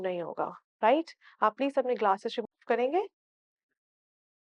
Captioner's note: in Urdu